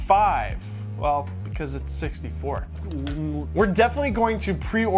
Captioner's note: groans